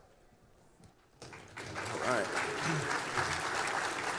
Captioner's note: applause